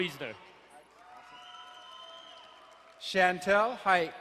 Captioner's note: crowd cheering and applauding